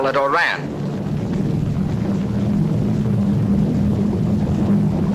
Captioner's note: plane engine buzzing